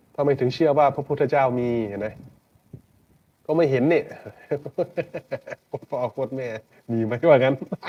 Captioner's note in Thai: เสียงหัวเราะ